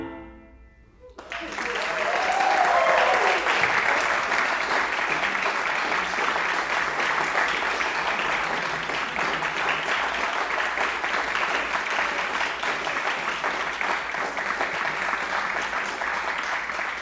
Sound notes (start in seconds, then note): 1.7 audience applauding; 1.7 audience cheering